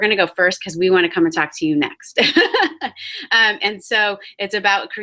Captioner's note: laughs